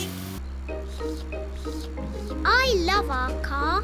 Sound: slurping

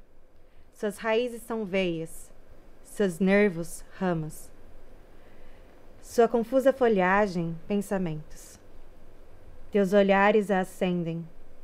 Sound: womans peakforeign language

